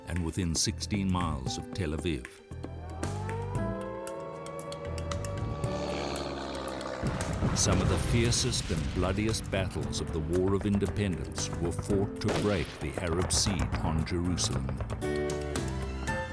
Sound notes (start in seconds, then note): 2.6 sirens wailing; 5.8 warplanes roaring